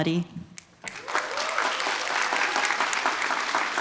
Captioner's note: applause